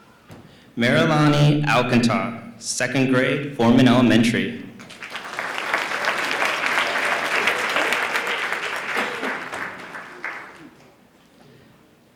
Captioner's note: applause